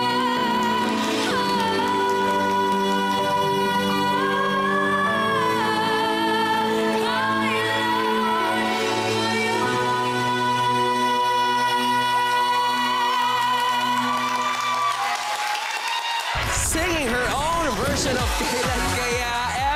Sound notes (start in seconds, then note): 0.0 crowd applauding; 11.8 crowd applauding, cheering